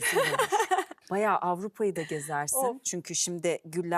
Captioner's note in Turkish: kahkaha